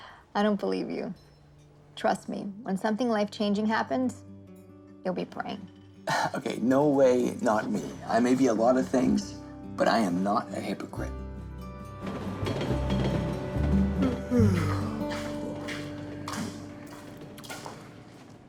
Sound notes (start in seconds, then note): 11.9 train passes in the distance; 14.0 yawning